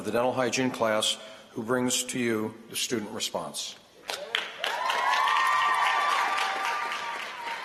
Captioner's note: applause